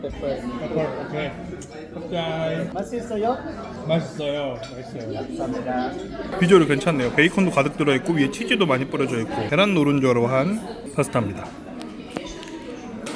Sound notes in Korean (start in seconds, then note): 2.8 갑자기 한국말